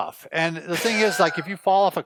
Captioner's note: laughing